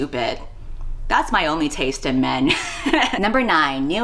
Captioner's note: laughs